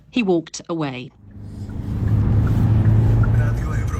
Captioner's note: radio